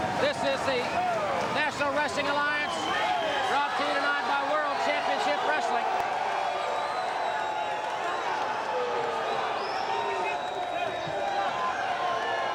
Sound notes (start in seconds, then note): 6.5 crowd cheering